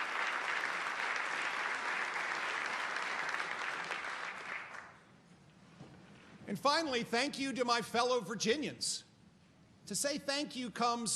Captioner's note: applause